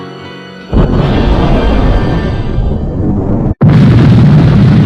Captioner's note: convenient thunder; extraordinarily convenient thunder